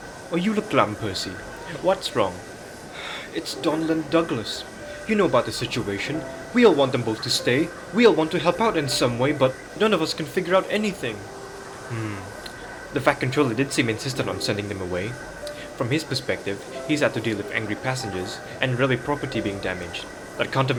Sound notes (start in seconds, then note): 2.9 sighs